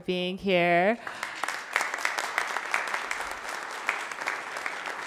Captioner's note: everyone applauds